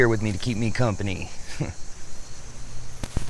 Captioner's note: chuckles; insects chittering